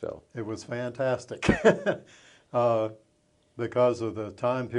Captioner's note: chuckles